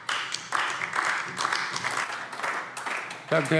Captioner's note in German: Beifall AfD